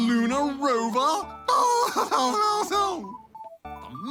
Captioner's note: laughs